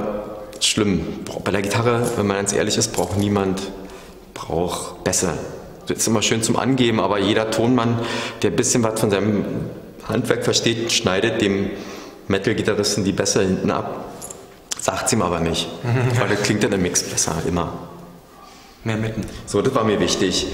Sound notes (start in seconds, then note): 15.8 laughs